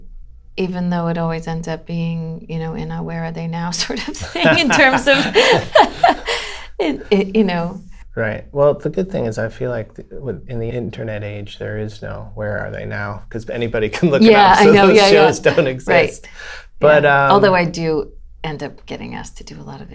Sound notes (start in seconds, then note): 4.2 laughter; 14.6 laughter